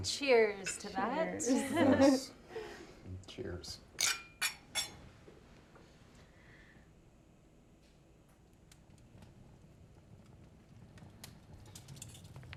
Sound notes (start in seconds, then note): 1.5 Claire and Lucy laughing; 4.0 glasses clinking; 8.2 fire crackling